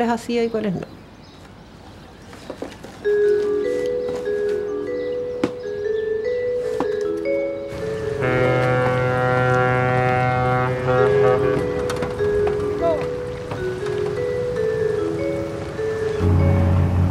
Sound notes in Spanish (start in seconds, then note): 3.3 Canto de aves; 9.7 Bocina de transbordador